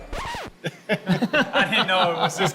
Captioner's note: record scratching; laughing